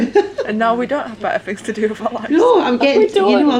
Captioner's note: laughter